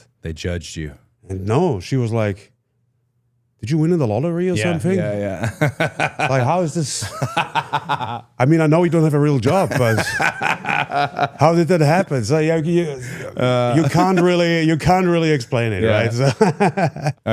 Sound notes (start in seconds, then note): 5.1 laughs; 7.5 Cody laughs; 16.4 laughs